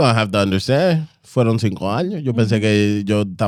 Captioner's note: speaking In Foreign Language